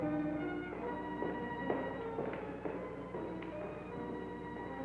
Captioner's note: footsteps clacking